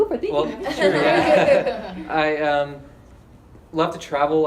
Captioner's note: laughing